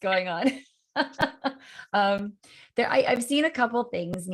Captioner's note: laughter